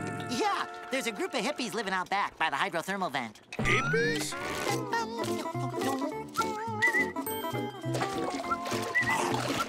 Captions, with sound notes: Yeah. There's a group of hippies living out back by the hydrothermal vent. Hippies? [humming and whistling]